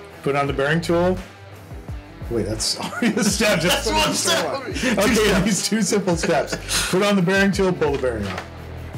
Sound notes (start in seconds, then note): 2.7 chuckles; 6.1 still chuckling